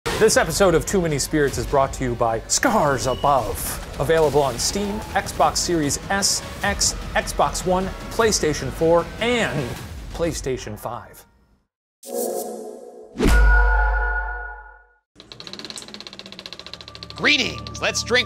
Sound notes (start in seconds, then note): 15.4 projector whirs